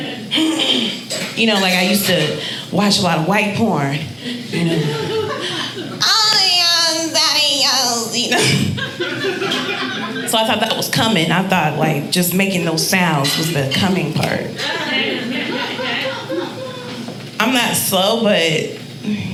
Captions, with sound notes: You know, like I used to watch a lot of white porn. "Oh, yeah daddy. Oh!" So I thought that was cumming. I thought like just making those sounds was the cumming part. (audience laughing) I'm not slow but...